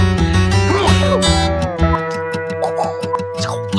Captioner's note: sneezing